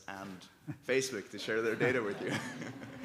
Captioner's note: audience laughing; laughing